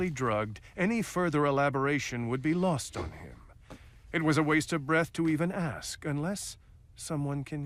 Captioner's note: none